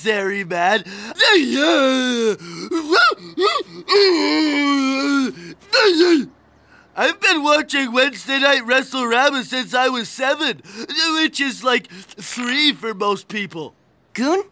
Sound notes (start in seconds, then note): 1.1 screaming